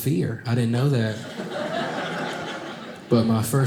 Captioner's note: audience laughing